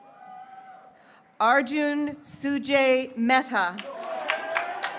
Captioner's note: graduates cheering